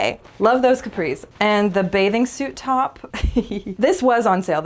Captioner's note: laugh